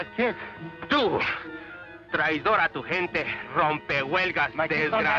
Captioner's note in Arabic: رامون يتحدث الاسبانية